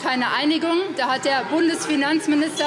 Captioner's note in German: Anhaltende Unruhe - Glockenzeichen